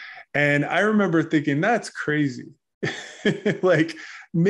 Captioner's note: laughs